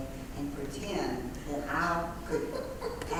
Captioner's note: laugh